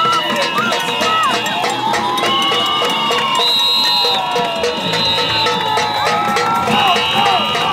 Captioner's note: clink; crowd